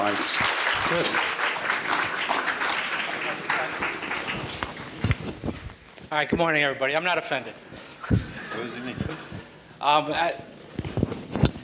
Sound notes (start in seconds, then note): 0.0 applause